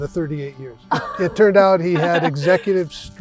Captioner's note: laughs